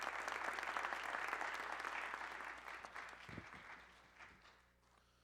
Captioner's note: applause